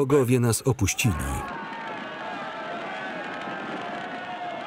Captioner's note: yelling